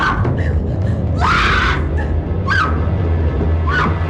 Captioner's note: Annie screaming and panting